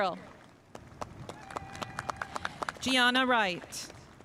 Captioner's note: spectators applauding